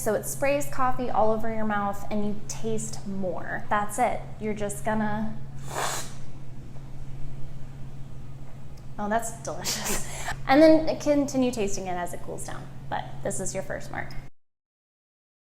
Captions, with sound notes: So it sprays coffee all over your mouth and you taste more. That's it. You're just gonna *slurps.* Oh, that's delicious! And then continue tasting as it cools down, but this is your first mark.